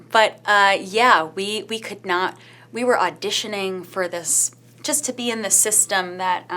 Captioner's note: none